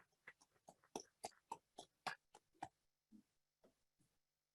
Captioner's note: audience claps